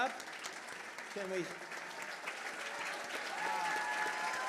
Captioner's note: applause, cheers